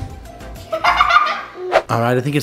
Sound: laughing

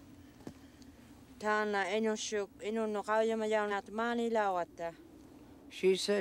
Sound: in Inuktitut

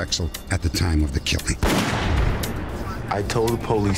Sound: gun shot firing

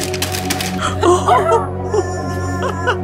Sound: paper rustling; laughing; howling

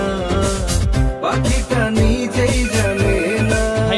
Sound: phone rings

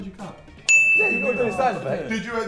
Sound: ding

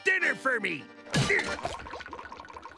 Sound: grunting

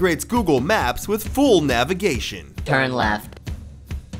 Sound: digital voice

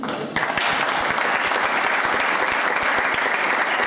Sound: applause

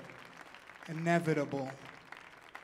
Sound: audience clapping

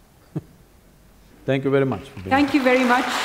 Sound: laughs; applause

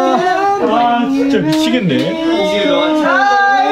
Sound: is cracking up so hard

